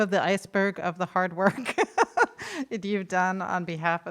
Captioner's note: laughs